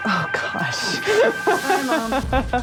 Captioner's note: laughs